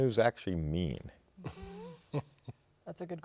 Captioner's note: laughter